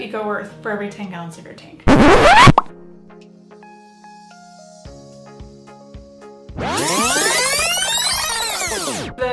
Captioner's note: rewinding/ zippy sound